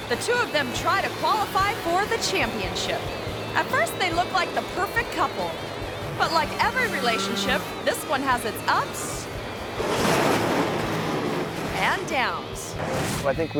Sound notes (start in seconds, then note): 9.0 motorcycle crashing; 9.4 motorcycles revving